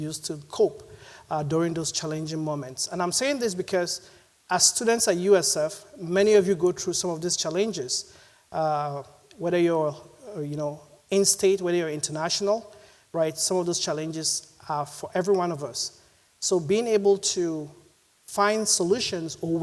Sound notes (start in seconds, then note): none